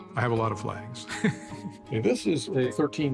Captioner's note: chuckling